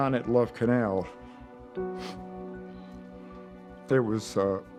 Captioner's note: sniffs; voice breaking